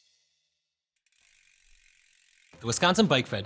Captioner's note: bike pedals